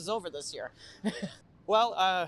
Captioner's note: laugh